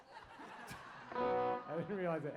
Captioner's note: laughter